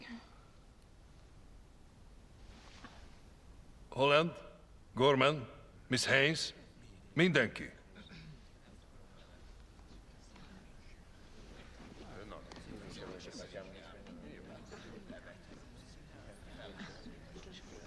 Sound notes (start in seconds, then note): 10.3 people whispering, murmuring